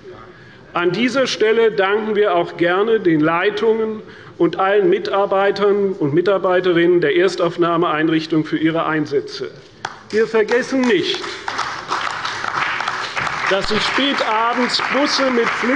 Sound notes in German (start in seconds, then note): 9.8 Beifall bei der CDU und dem BÜNDNIS 90/DIE GRÜNEN